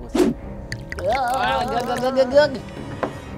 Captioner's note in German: Wabernde Laute